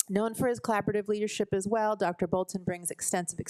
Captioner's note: none